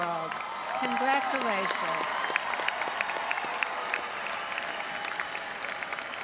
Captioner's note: audience applauds